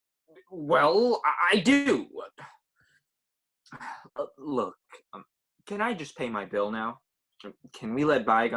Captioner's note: sigh